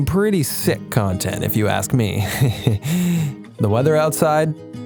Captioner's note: nervous laughter